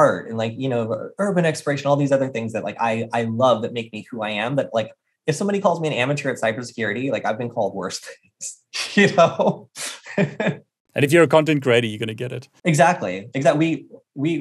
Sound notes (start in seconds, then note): 11.0 laughing